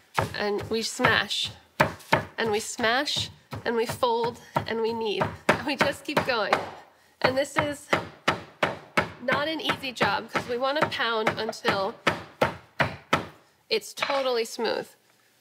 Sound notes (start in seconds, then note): 6.4 pounding